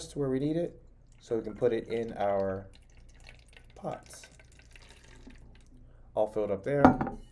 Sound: water pouring

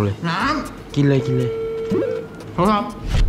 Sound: phone ringing

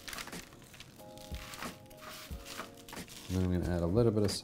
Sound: paper crinkles

